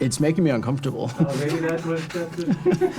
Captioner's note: laughing